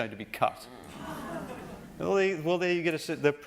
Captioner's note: gasping